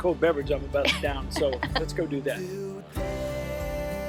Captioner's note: laughing